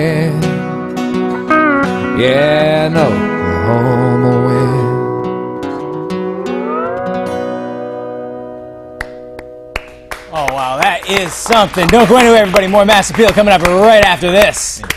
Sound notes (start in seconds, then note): 13.0 applause